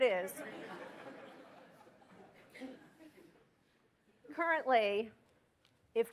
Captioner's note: laughter